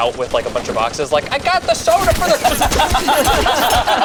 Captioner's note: group laughs; bullets fire